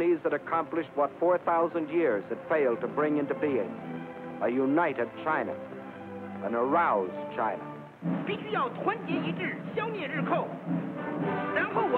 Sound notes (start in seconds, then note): 8.0 speaking chinese